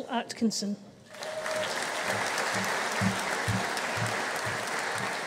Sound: audience applauding

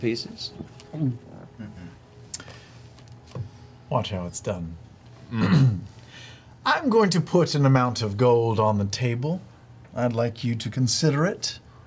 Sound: gulps

